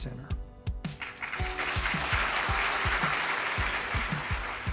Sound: audience claps

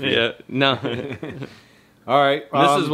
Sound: laughs

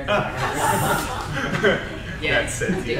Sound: crowd laughs

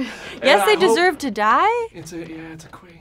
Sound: laughing

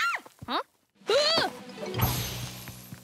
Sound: shrieking

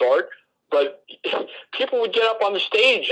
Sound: laughs

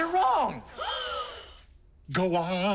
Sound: gasping

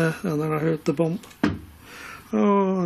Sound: loud thumping

